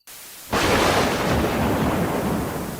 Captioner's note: thunder Strikes